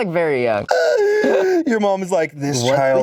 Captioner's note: laughs